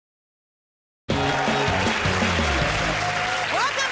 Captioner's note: cheers and applause